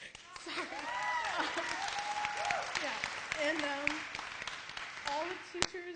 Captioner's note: applause